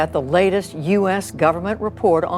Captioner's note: soundbite of archived recording